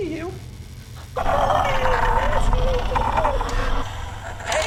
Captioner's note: high & distorted talking